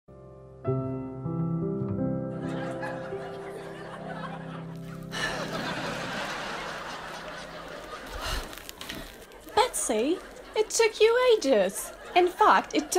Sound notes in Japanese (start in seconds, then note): 4.8 ため息; 4.8 観客の笑い声